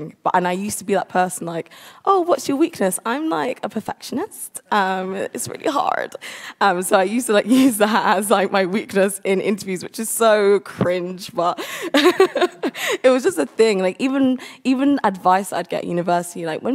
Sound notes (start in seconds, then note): 11.5 laughs